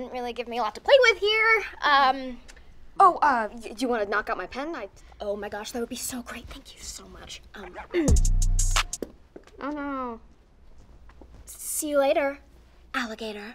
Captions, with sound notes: Didn't really give me a lot to play with here. Um. Oh, uh, you want to knock out my pen? Oh, my gosh, that would be so great. Thank you so much. Um. [clearing throat] Oh. See you later, alligator.